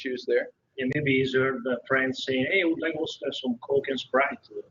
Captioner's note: talking on phone